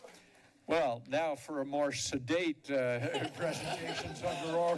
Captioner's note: chuckles